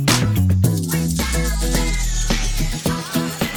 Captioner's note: chant